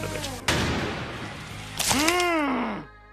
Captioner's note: metal slams